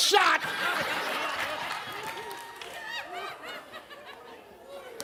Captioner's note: audience laughs